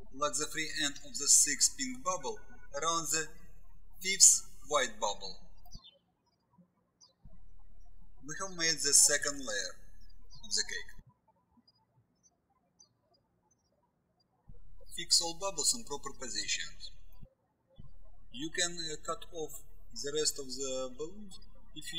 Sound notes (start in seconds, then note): 11.7 birds chirping